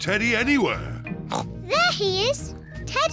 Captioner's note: oinks